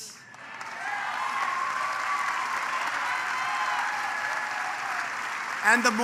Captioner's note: applause